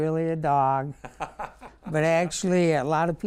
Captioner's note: laughing